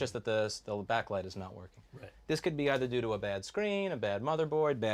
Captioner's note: none